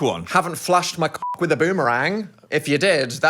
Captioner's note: beep